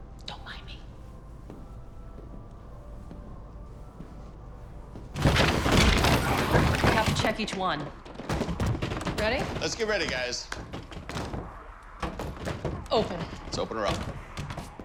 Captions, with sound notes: Don't mind me. [clattering] - We have to check each one. Ready? - Let's get ready, guys. - Open. - Let's open her up.